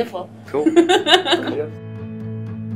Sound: laughs

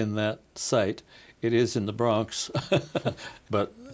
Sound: laughing

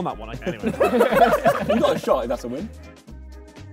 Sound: Sidemen laugh

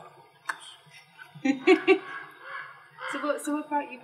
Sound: laugh

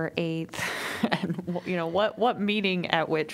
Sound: laughter

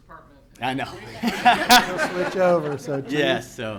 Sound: laughing

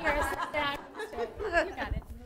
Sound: laughter

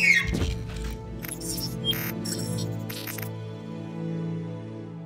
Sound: gunshot followed by shrieking noise; robotic beeps fade away

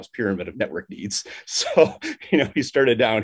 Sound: chuckles

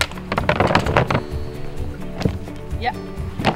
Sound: boxes rattling

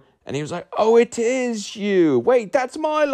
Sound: imitating English accent

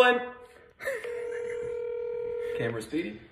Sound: laughing; phone ringing

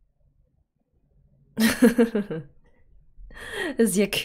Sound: laughs

